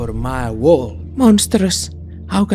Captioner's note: quietly, to herself